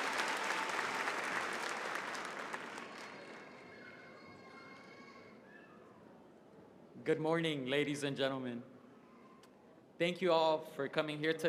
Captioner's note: cheering and applause